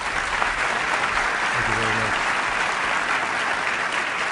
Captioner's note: applause